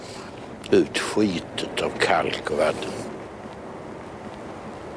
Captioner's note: said in Swedish